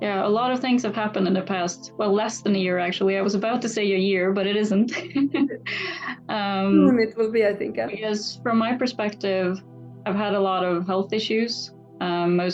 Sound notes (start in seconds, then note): 4.8 laughs